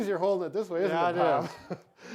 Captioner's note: laughs